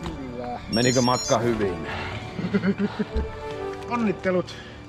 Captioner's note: laughter